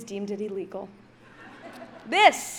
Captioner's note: audience laughs